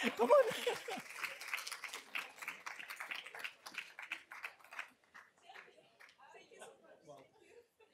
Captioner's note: applause